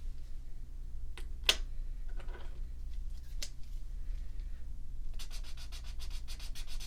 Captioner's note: swatching sounds